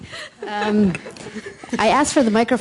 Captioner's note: laughter